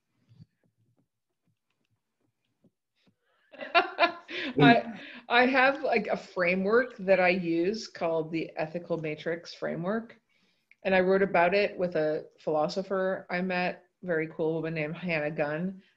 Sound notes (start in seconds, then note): 3.6 laughs